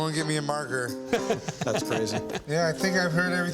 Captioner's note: laughter